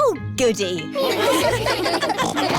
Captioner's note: laughter; snorting